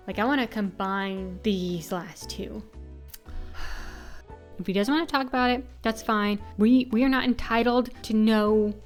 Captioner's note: sigh